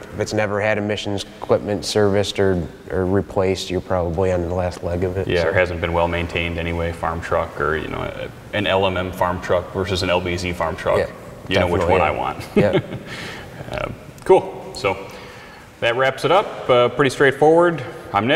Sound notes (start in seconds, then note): 11.7 chuckles